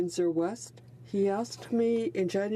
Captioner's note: speaking French